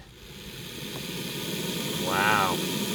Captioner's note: snake squeaking